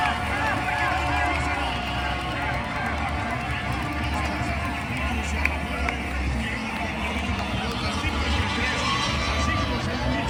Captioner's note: cheering